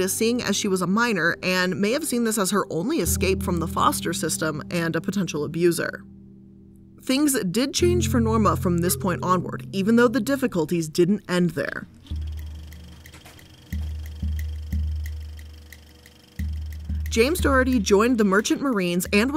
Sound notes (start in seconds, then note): 12.0 reel rattling